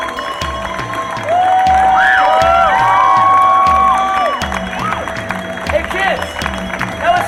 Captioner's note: audience cheering and applauding